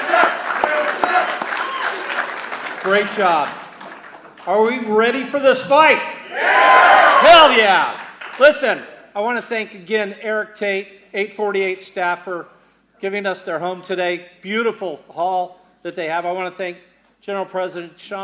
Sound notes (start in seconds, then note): 0.0 cheers and applause; 2.7 chanting